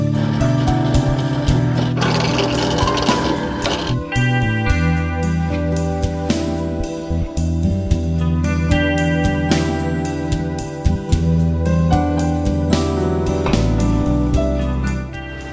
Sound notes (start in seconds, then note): 0.0 drilling a plastic part